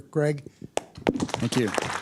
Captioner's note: applause